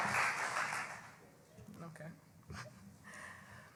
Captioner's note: cheering and Applause